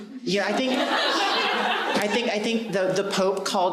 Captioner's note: audience laughing